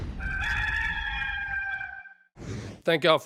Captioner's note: rooster crowing